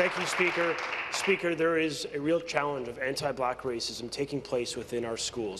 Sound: applause

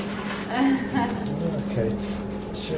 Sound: laughing

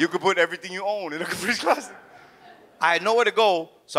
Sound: audience chuckles

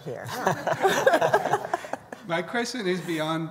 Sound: laughter

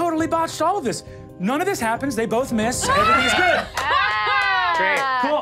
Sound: laughs

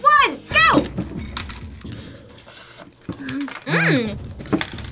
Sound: laughs

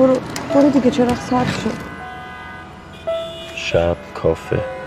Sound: car horn honking

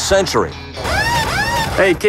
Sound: mechanical sounds

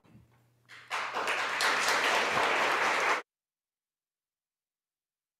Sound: audience applauding

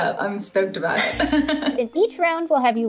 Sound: laughs

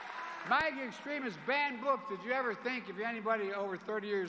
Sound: cheers and applause

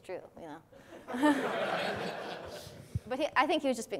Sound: class laughs

